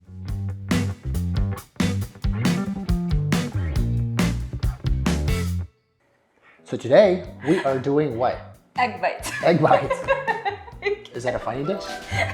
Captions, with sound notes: (funky bass music) - So today, we are doing what? - Egg bites. (laughs) - Egg bites. Is that a funny dish?